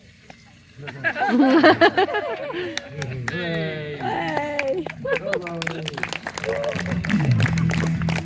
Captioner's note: laughter; applause